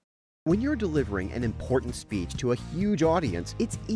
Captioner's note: voice-over